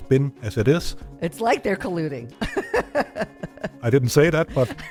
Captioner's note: laughs